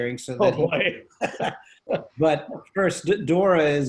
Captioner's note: laughs